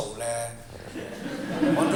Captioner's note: laughter